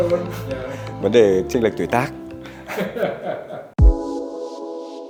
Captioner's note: laugh